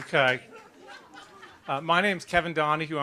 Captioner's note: applause